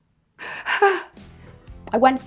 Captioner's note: laughs